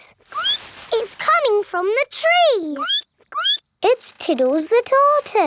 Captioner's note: squeak; squeaking